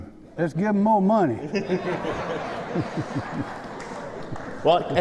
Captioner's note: laughter